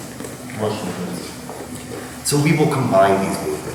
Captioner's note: speaking in a foreign language